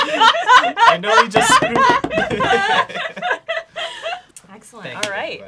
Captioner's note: laughing; rapid knocking